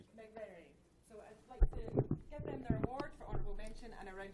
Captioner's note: voiceover